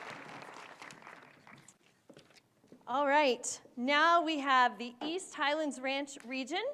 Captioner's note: applause